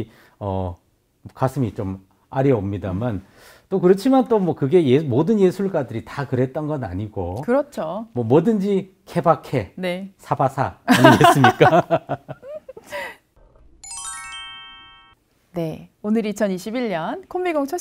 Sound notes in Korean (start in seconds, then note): 10.9 웃음